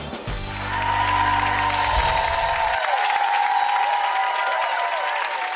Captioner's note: audience clapping and cheering